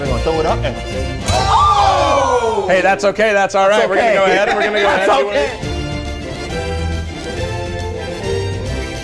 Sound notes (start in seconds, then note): 0.0 scream; 1.5 guests groan; 5.6 uplifting music